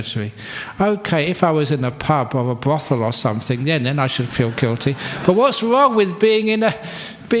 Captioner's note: laughter